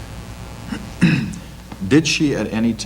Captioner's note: unidentified person clearing throat